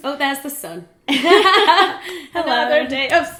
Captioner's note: laughing